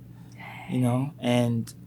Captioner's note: whispers